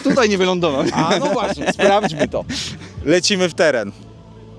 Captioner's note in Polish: śmiech